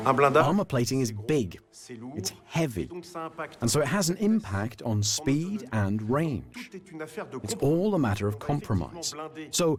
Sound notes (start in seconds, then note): 0.6 voiceover